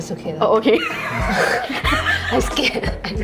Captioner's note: laughter